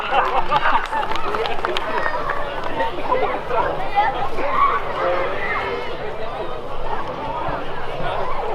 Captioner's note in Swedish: Applåder